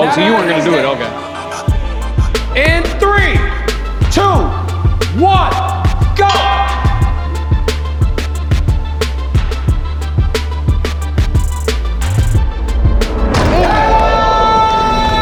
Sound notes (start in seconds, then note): 1.4 hip hop music; 5.7 bell ringing